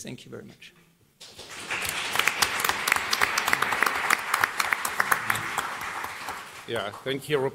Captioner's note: applause